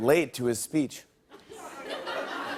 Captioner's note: light laughter